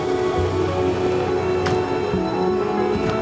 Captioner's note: horns honking